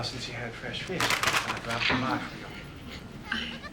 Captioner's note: chicken falls